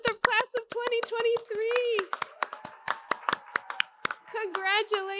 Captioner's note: applause